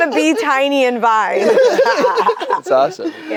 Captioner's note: group laughs